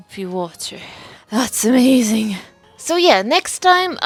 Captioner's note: barely catches her breath